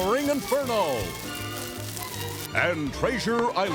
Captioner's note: crackling